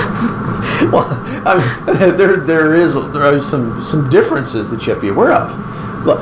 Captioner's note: laughing